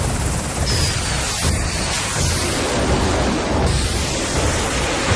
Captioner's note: jets blasting